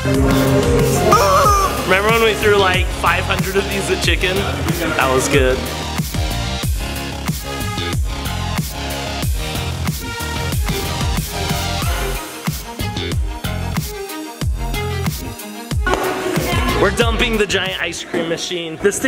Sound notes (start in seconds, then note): 1.1 rubber chicken squeak; 5.9 upbeat music